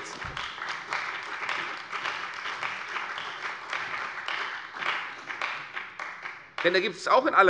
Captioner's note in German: Beifall bei der CDU und dem BÜNDNIS 90/DIE GRÜNEN